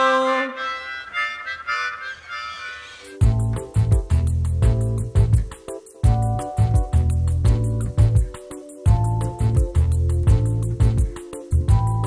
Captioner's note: laughs